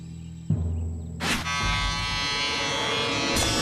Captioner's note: buzzing